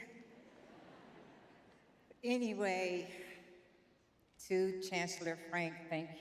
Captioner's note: audience laughing